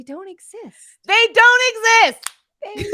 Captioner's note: tab clicks